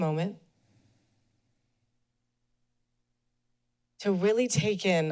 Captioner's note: pause